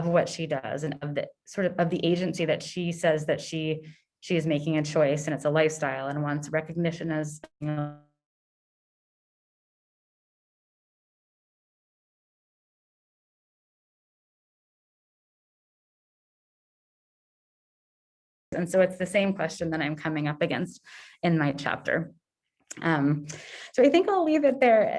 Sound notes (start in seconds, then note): 13.1 audio cutoff